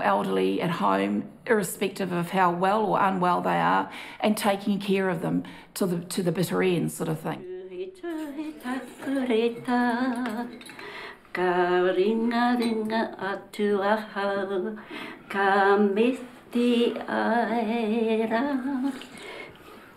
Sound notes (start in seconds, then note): none